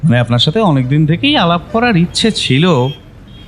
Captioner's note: none